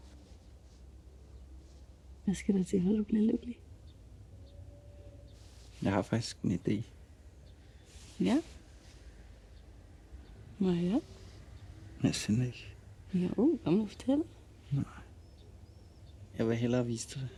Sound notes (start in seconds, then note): none